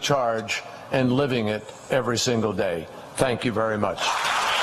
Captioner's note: applause